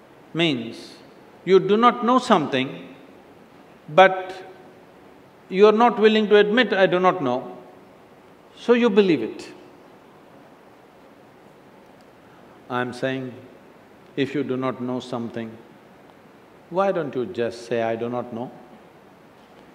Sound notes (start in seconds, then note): none